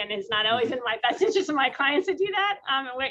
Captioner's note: laughs